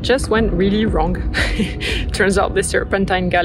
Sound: chuckles

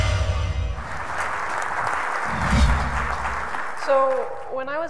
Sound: applause

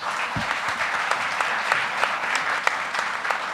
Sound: applause

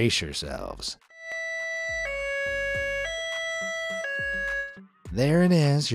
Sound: police siren nee-nawing

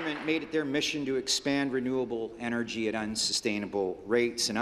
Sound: applause

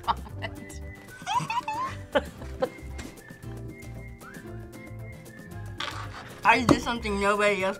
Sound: laughs; giggles; laughs

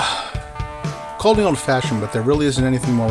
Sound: sigh

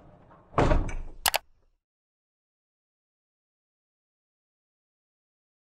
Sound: mouse button clicks

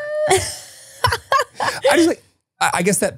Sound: laughs

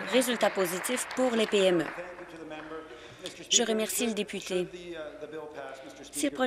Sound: applause

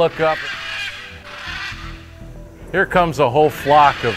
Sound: scarlet macaws chirping

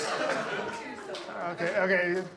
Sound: audience laughs

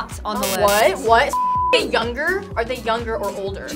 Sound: beep

